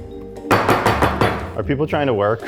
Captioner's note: bowl clunking